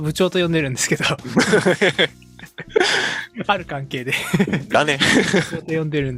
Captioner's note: laughs